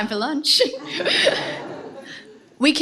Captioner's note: laughter